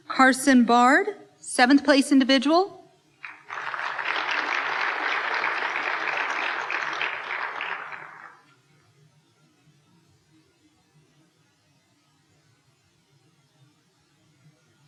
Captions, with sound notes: Carson Bard, Seventh Place individual. (applause)